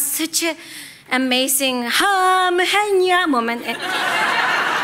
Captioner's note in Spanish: risas